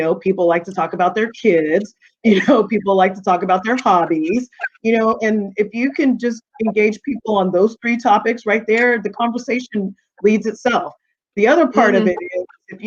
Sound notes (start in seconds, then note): 2.3 chuckling